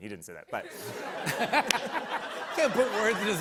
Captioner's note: laughter